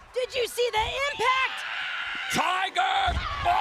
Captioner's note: woman screams